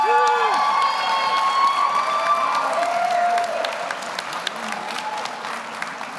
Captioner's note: audience cheers; audience applauds